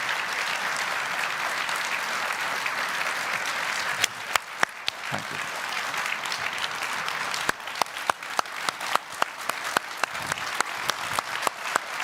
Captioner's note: applause